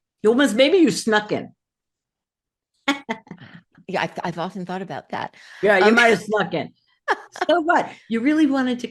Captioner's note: laugh